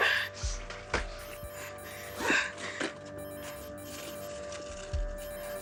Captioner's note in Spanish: Sollozos